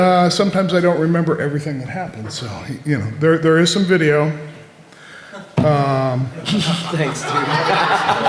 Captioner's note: laughter